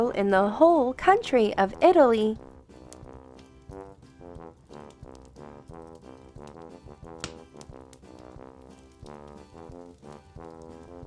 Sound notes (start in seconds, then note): 2.3 fire crackling; 3.3 instrumental Christmas music